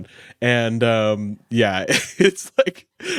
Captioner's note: laughs